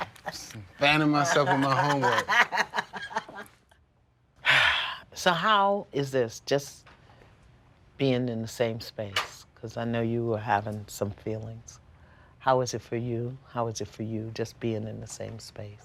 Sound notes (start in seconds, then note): 3.0 laughs; 4.4 sighs